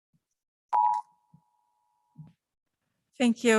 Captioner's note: beep